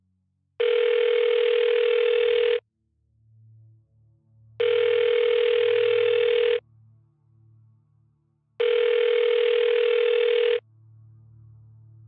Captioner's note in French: Sonnerie de téléphone